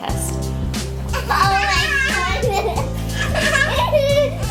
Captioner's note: kids laughing